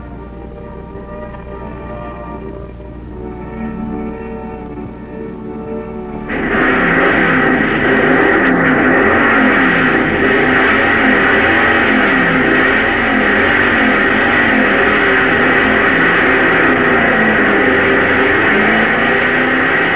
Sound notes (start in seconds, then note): 0.0 lighthearted music; 6.9 engines roaring